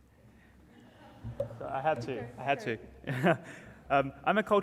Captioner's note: laughs